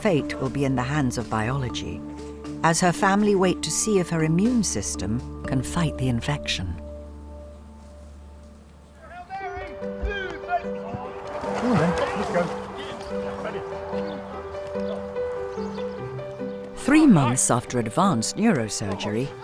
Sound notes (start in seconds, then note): 10.0 rugby players yelling; 14.5 gentle upbeat music